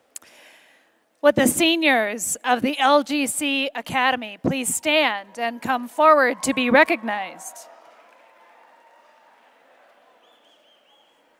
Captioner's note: applause